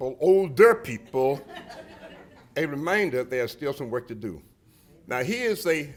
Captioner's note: laughter